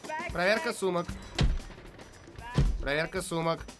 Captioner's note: thud